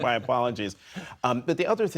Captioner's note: laughter